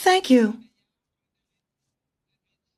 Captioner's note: speaking French